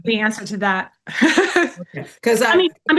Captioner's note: laughs